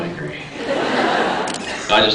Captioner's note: laughs